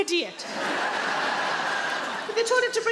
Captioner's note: audience laughing